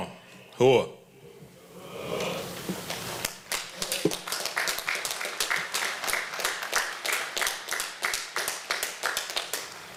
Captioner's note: applause